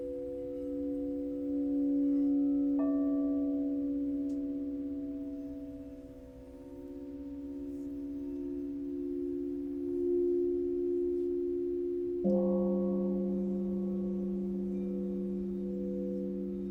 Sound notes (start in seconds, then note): 0.1 relaxing tones; 12.0 gong rings